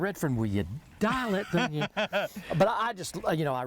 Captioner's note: laughs